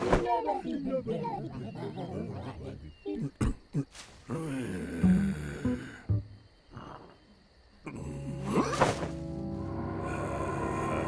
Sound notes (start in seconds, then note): 0.1 ghost's mind babbling; 4.3 groans; 9.0 eerie music